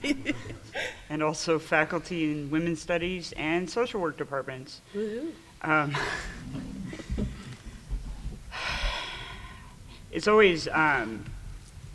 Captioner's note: laughing; laughing